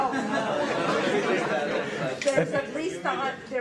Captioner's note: audience laughter